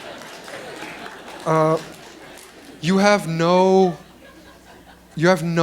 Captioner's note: laughter